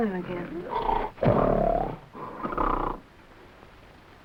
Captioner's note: gorilla grunting